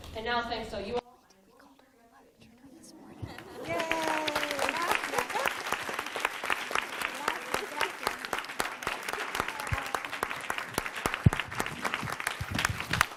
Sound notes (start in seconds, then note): 3.9 applause